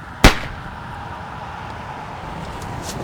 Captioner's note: gunshot